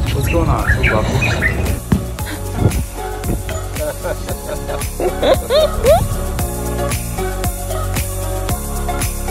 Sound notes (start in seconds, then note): 3.4 laughing; 6.4 upbeat music